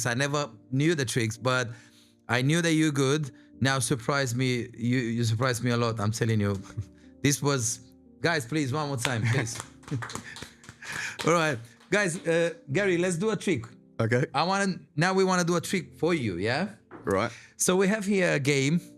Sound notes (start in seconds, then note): 9.0 applause